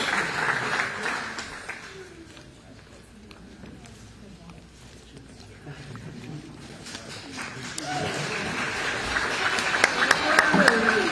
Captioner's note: applause